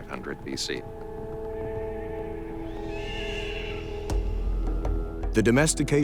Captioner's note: horses whinnying